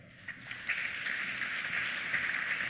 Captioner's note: applause